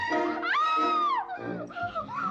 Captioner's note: Katherine screaming